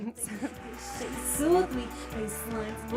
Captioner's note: peppy music; crowd cheering